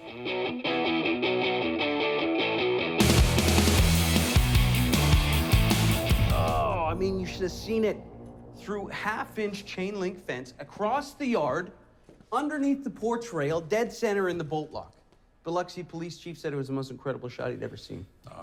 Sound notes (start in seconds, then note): 0.1 energetic music; 6.2 O'Donnell grunting